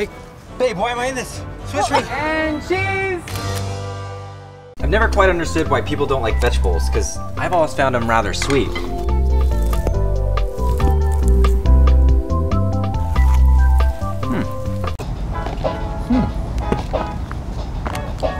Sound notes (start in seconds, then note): 3.3 camera clicks; 9.2 soft playful music; 15.3 soft funk music